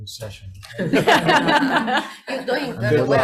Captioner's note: crowd laughs